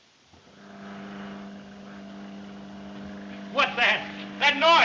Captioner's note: door whirring